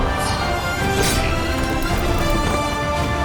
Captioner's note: flames booming; blades ringing; dramatic music continues